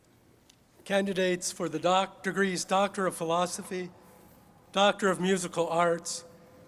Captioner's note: none